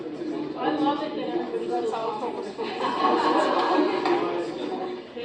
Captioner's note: laughter